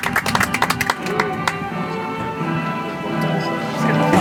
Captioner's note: audience applauds